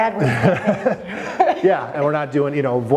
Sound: loud chuckle

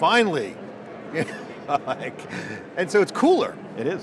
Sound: laughing

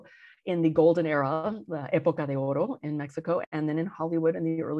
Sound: speaks in Spanish

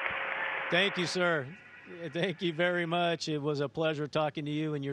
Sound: cheering and applauding

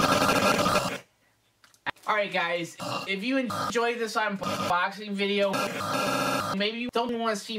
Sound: coughing and hacking; cough

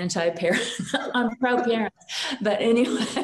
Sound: chuckles

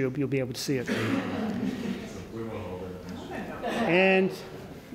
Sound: laughter

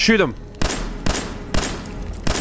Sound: blam! blam! blam!

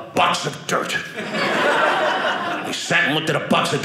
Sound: audience laughing

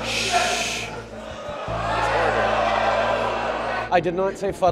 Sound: oohing

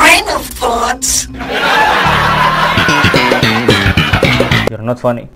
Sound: audience laughing

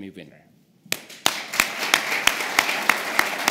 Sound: applause

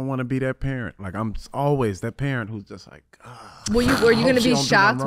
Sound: groans

